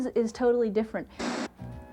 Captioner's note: static noise